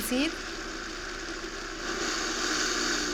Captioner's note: whirring